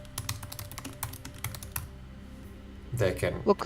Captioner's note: presenter typing